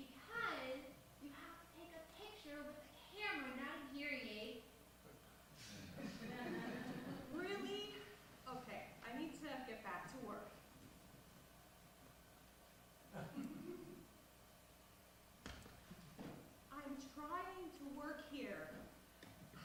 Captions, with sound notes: Because you have to take a picture with a camera, not a hearing aid. (audience laughs) Really? Ok, I need to get back to work. Hey Mom. Mom? Hey I’m trying to work here.